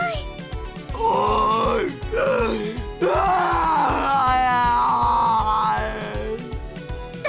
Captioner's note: lamenting moans